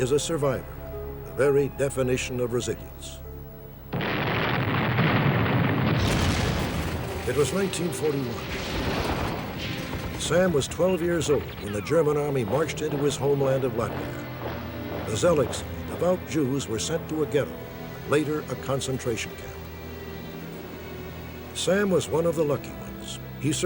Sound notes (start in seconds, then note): 3.6 blasting